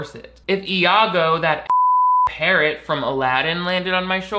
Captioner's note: beep